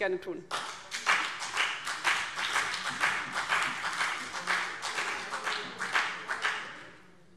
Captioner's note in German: Beifall BÜNDNIS 90/DIE GRÜNEN und vereinzelt CDU